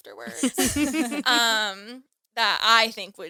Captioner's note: all laughing